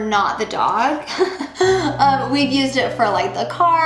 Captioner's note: laughing